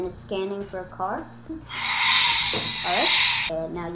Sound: engine revving

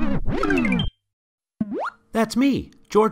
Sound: video game sounds

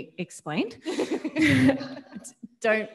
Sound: audience laughing; laughs

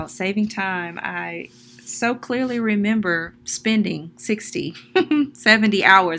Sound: giggles

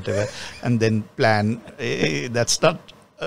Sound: laughs

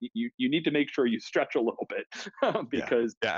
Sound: laughs

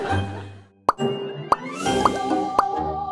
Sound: laughter; popping

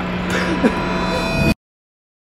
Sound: cries

